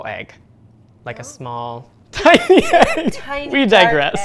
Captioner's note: laughs